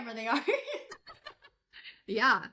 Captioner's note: laughing